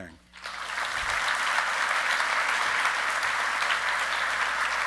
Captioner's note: audience clapping